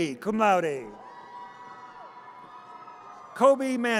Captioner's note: audience cheers